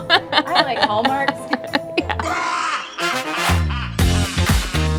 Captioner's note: maniacal laugh; upbeat music